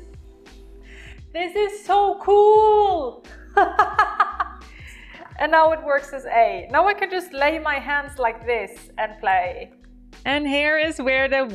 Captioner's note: laughs